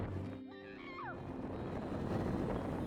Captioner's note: screams in shock